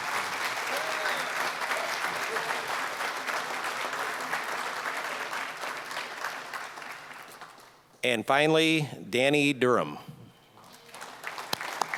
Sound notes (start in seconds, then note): 0.0 applause, cheering; 3.8 applause; 10.6 applause